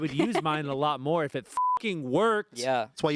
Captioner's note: beep